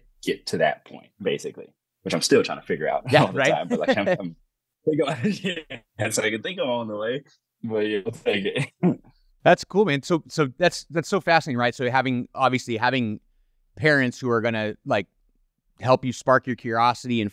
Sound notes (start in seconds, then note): 5.0 laughs